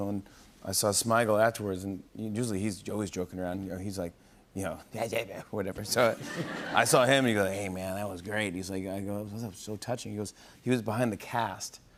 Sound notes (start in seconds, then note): 4.5 imitates Adam Sandler